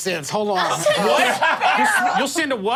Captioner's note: group laughing